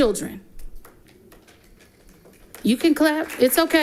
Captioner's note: audience applauding